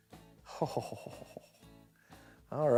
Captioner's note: chuckles